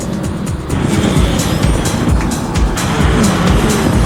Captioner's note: engine revving